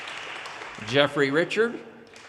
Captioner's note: audience cheers and applause